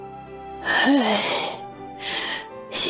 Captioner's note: sigh